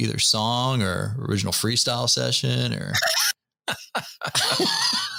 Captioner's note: laughter